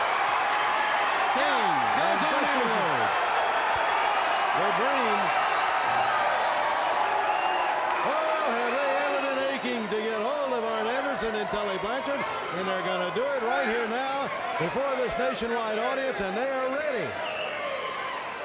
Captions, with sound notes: (fans cheering) (commentators chattering) Oh are they ever aching to get ahold of Arn Anderson and Tully Blanchard, and they're gonna do it right here now, and for this nationwide audience, and they are ready.